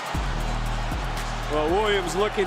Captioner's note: crowd cheering